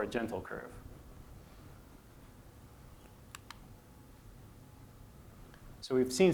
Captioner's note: silence